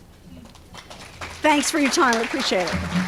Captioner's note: applause